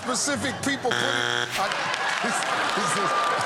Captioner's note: buzzer; chuckling